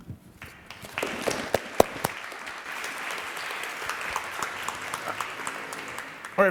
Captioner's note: audience applauds